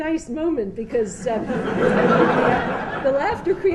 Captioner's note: laughter